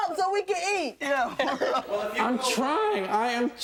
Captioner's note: laughs